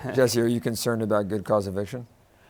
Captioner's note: laughs